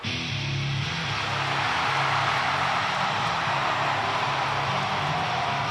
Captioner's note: lively metal music; audience cheering